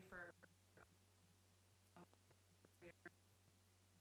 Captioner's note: stuttering audio